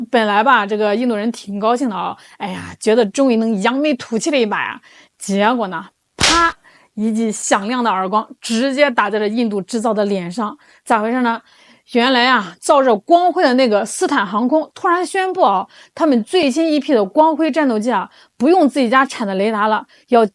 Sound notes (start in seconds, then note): 6.2 slap